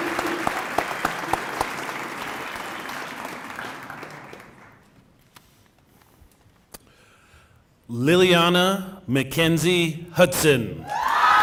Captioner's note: cheering and applause